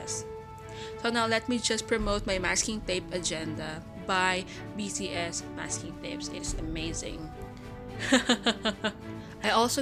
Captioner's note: laugh